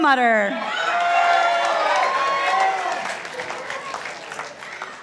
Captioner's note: participants applauding